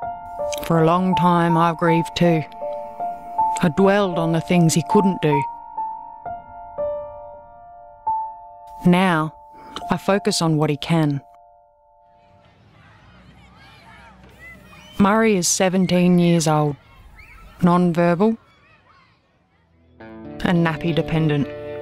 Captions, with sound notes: For a long time I grieved too. I dwelled on the things he couldn't do. [Piano music] Now, I focus on what he can. [Sounds of children playing] Murri is 17 years old, non-verbal and nappy dependent.